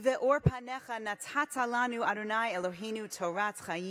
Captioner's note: speaking hebrew